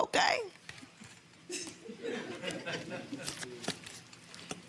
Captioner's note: audience chuckling